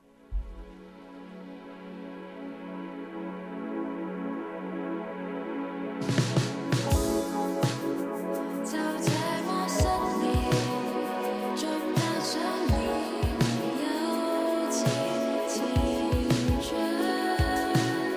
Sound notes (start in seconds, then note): 0.3 music starts; 8.5 Cantonese; 9.5 sings